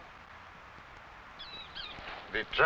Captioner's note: bird chirping